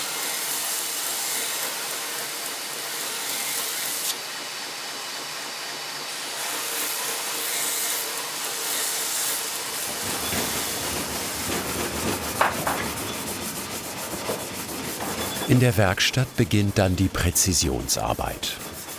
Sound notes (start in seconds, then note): 9.7 machine rattling